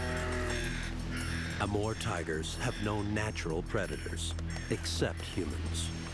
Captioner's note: growls